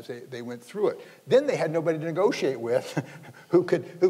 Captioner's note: laughs